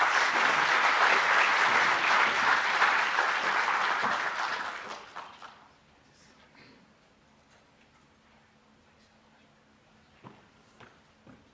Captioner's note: applause